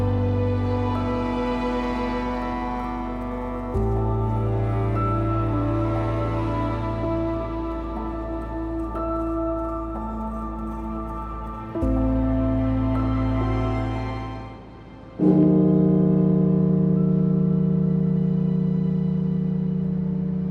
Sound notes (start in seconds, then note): 15.3 bell tolling; 17.7 somber music